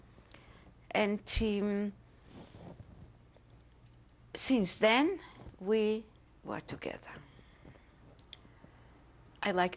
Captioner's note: pauses for 3 seconds